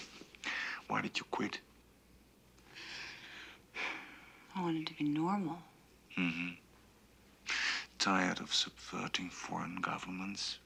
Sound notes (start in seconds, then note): 2.8 sighs